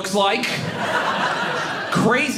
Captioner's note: audience laughing